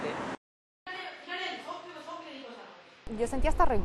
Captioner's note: conversation in Chinese